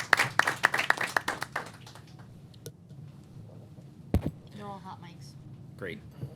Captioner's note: applause